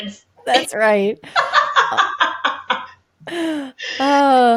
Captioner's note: laughing